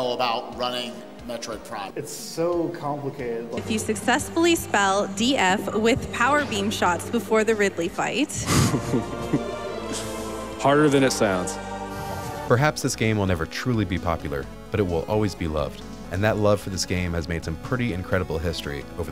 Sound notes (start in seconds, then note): 8.3 laughing